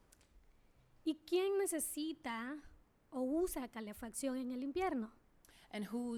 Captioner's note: speaking spanish